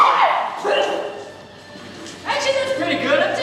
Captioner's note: adachi spits